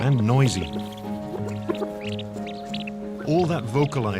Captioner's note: chirping